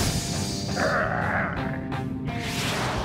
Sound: growling

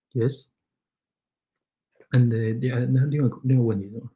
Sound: speaks mandarin

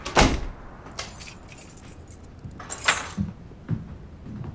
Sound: door shuts, keys are put down; footsteps

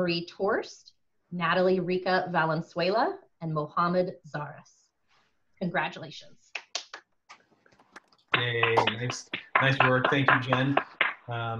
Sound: applause

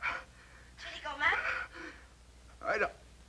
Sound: on phone

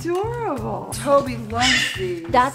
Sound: bird squawking loudly

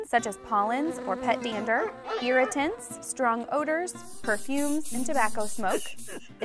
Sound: meow; coughing

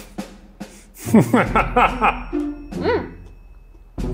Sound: laughs

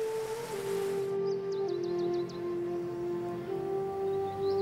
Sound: birds twittering

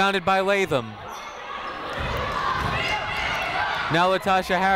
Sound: people shouting in the crowd

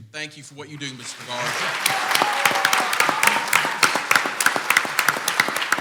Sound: clapping and cheering

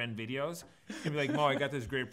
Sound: laughs

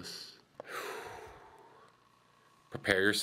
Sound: sighing

